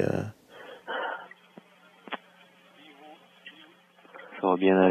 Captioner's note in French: respiration bruyante